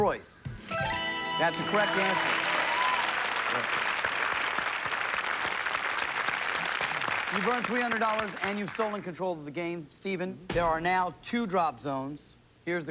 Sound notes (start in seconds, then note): 0.6 fanfare; 3.4 cheers and applause